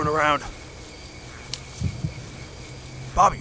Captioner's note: twig snaps